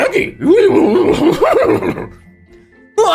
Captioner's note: scooby noises